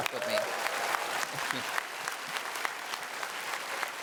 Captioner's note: applause